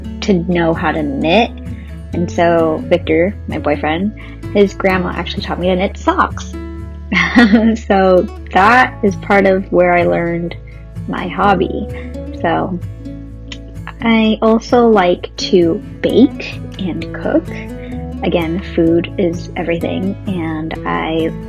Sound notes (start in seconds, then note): 7.2 laughs